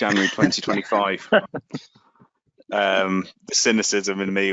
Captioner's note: both laughing